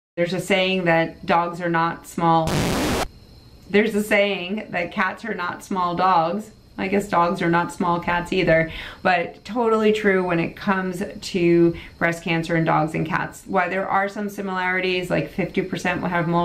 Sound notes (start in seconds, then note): 2.4 disc scratching